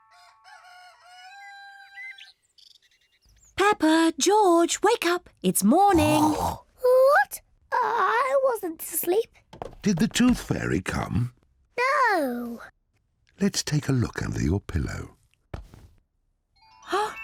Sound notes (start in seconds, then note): 0.0 rooster crows; 6.4 snorts; 7.6 stammers; 17.0 gasps